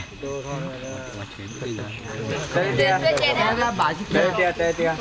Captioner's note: people chatter